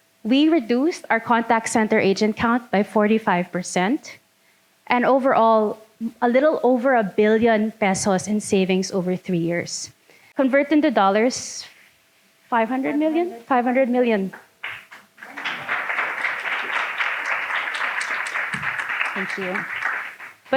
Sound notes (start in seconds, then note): 14.6 audience clapping